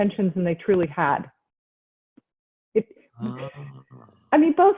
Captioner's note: chuckles